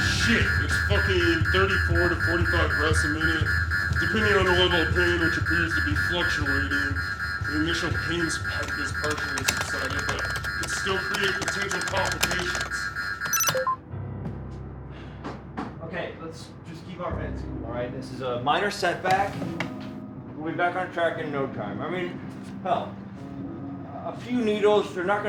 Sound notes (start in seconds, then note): 13.2 computer bleeps; 13.2 tense music